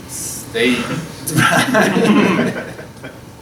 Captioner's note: laughter